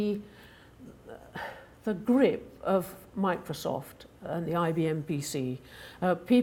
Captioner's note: sighing